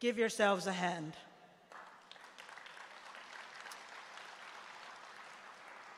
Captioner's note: applause